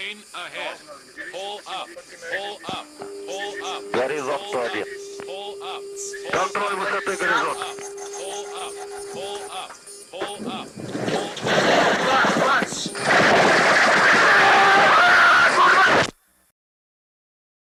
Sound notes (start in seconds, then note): 7.7 inner marker sound; 13.8 scream